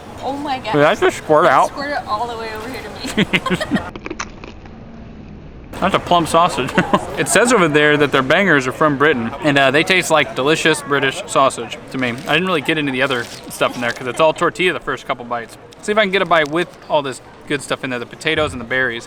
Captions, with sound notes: Oh my god Did that just squirt out? It squirted all the way over here to me. (laughs) [crunch sound] That's a plum sausage. It says over there that their bangers are from Britain and they taste like delicious British sausage to me I didn't really get into the other stuff in there cuz it's all tortilla the first couple bites See if I can get a bite with all this good stuff in there the potatoes and the berries